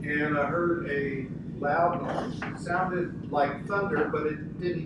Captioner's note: whooshes